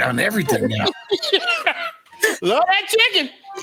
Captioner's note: laughs